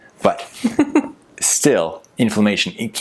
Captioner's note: giggles